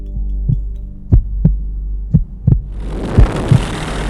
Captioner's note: heartbeat pumps